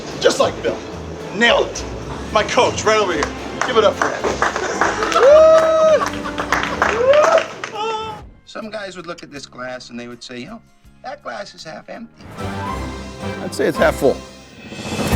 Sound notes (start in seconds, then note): 5.0 colleagues cheers; 14.9 upbeat music